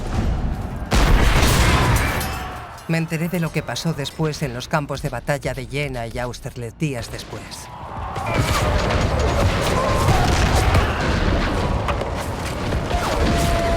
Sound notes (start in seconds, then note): 0.8 cannon blasting; 9.4 soldiers bellowing; 10.4 guns firing